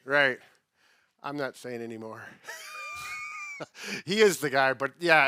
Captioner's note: laughs